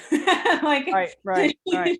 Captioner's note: laughing